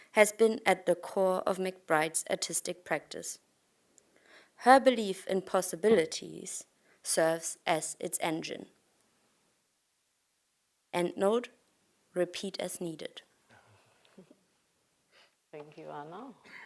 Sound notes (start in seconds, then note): 14.2 chuckles